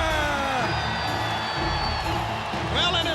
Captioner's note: crowd cheering